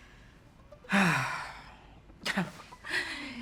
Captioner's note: exhaling deeply